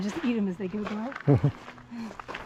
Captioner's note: laughing